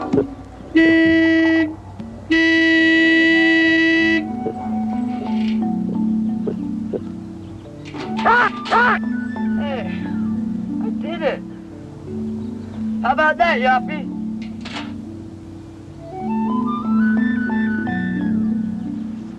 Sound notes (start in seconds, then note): 0.3 horn honking; 8.2 baboon shouting